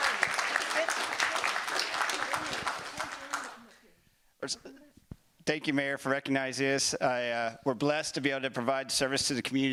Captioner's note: applause